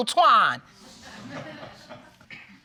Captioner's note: audience exclaiming and laughing